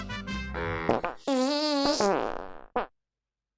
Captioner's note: trumpet and farting sound effect